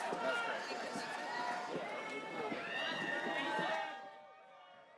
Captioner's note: audience cheers, applauds